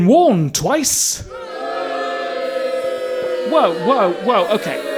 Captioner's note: audience boos and heckles